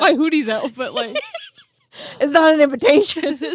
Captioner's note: both laughing